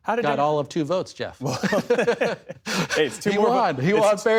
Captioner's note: laughter